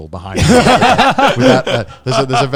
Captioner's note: laugh